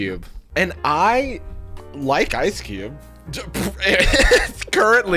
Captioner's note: laughing